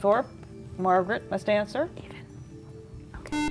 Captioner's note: whispering; buzzer